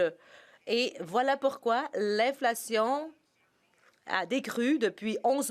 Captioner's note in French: voix de l'interprète